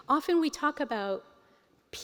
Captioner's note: none